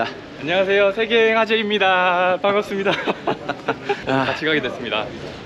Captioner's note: laughing